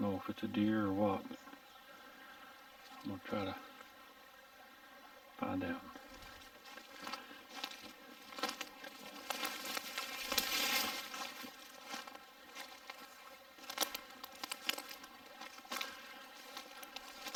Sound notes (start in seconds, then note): 6.5 twigs snapping